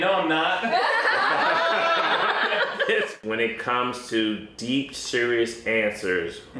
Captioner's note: raucous laughing